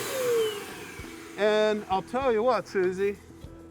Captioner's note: machine turning off; normal voice